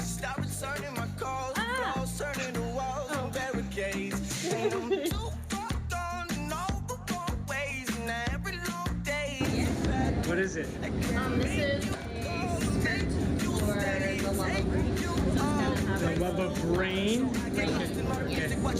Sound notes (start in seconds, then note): 4.2 students laugh; 4.2 videographer chuckles